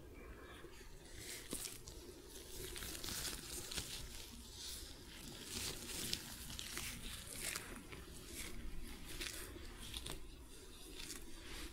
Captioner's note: sticky sounds, shuffling